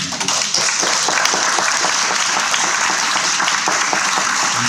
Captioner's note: people clapping